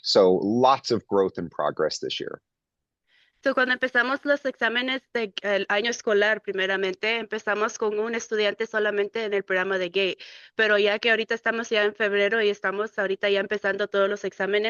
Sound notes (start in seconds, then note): 3.5 speaking in Spanish